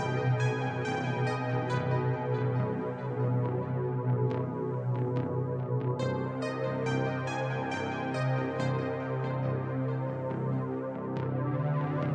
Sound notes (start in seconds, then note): none